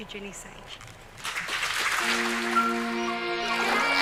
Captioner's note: audience clapping